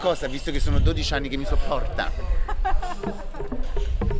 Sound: laughing

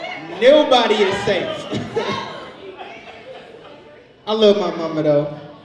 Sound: overlapping chattering; audience laughs

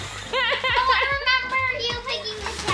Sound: laughing

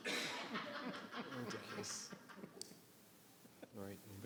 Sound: laughter in crowd

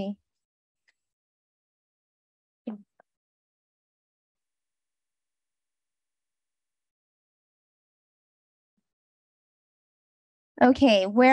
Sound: silence

